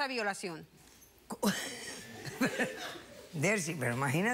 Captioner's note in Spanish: risas